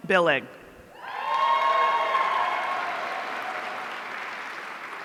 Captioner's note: audience cheering